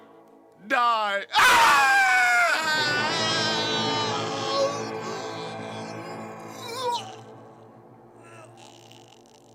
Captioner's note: Thisby screams